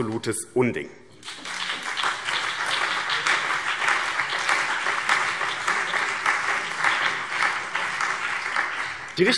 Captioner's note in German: Beifall BÜNDNIS 90/DIE GRÜNEN, CDU, SPD, Freie Demokraten und DIE LINKE